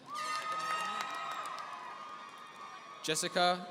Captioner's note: applause